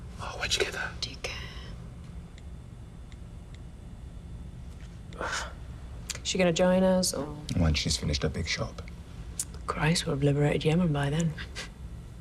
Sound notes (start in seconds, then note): 5.0 Sherberg sighing